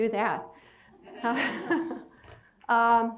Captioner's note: crowd laughs